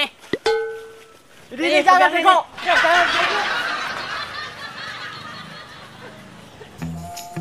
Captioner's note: laughs